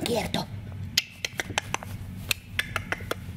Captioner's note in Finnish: Naksuttelua kielellä